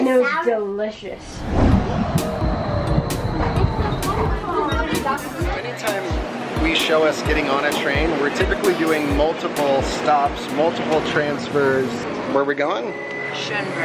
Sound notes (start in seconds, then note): 3.5 people chattering indistinctly